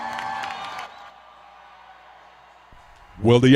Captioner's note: applause